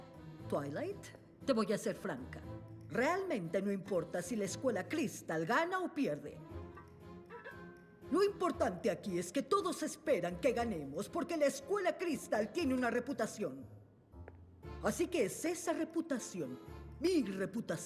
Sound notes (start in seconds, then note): none